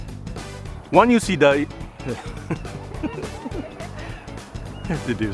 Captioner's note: chuckling